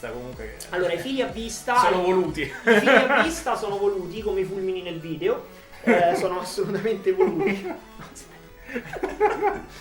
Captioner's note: laughs